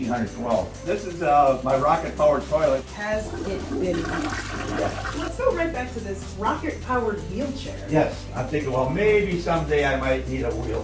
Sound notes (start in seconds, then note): 3.1 flushing sound